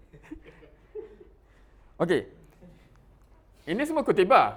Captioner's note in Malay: ketawa